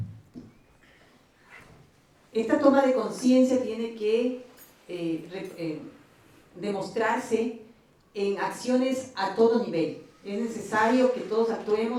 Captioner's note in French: Espagnol